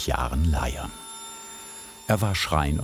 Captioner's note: high-pitched whirring